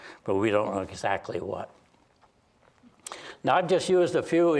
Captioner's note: none